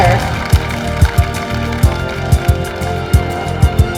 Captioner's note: applause